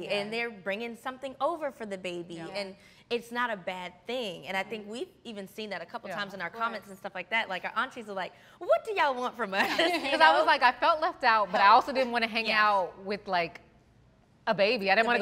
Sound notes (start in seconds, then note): 9.6 laughing